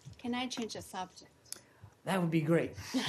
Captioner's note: laughter